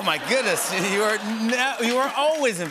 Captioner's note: laughter